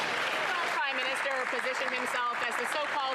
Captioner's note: some Applause